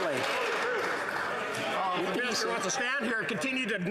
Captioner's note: applause